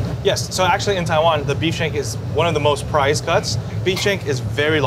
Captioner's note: none